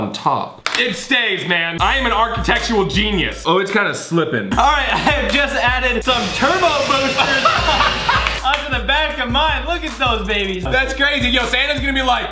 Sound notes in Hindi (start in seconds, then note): 8.1 हंसता है